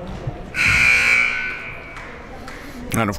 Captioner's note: buzzer